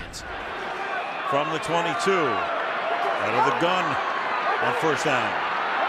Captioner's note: cheering